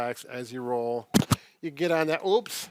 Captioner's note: mic scuffs